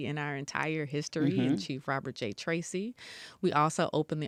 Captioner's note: mmhmms